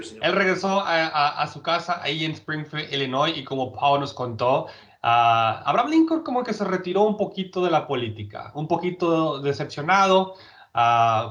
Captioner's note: speaking in Spanish